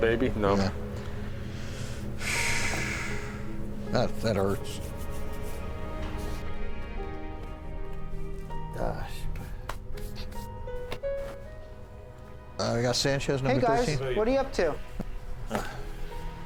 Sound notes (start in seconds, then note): 2.2 Richard exhales deeply; 9.6 hands clap